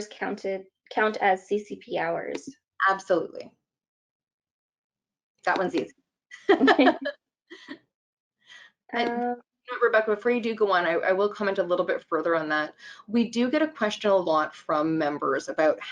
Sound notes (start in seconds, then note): 6.4 laughing